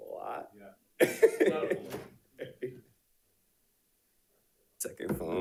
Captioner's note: audience and participants laughing